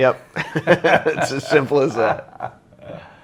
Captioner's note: laughs